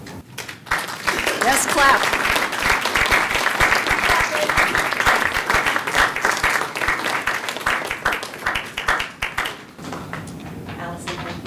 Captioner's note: applause